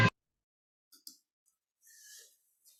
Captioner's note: mouse clicks